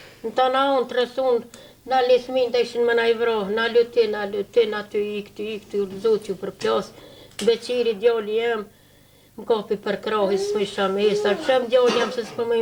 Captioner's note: she breaks into tears